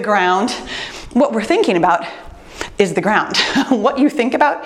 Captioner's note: chuckles